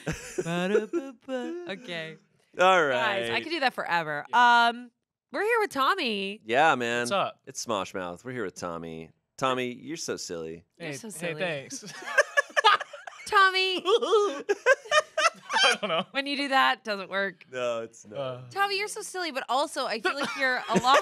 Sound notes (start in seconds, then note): 11.7 everyone laughs; 14.3 giggles; 15.1 laughs